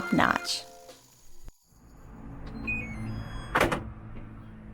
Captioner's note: musical beep and door opening